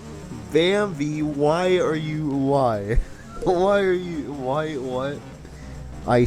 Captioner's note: laughing